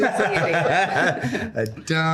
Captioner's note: laughs